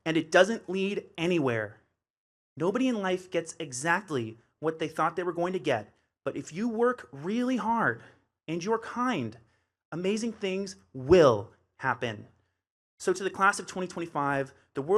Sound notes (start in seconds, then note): none